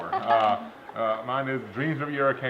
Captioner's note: laughs